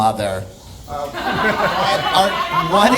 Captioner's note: audience laughing